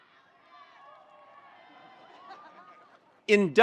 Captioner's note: attendees cheering